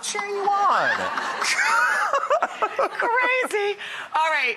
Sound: audience laughing

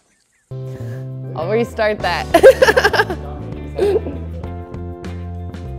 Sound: laughs

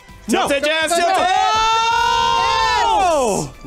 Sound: screaming ensues

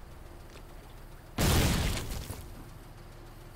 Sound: boom

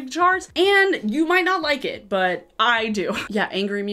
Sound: chuckles

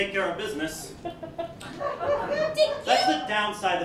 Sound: laughter

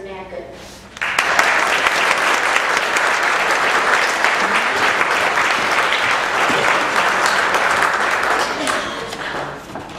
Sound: applause

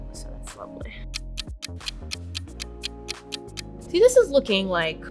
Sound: clock ticking

